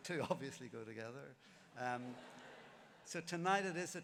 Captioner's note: laughter